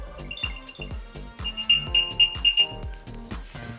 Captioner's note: beeping